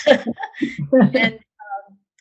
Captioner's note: laughter